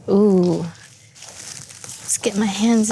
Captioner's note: batter smacking